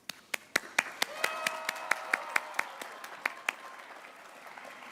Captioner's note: applause